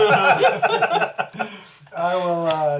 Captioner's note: all laugh